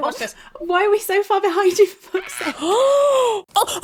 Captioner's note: gasping; screaming; heavy breathing